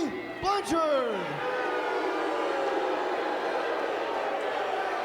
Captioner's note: fans booing and cheering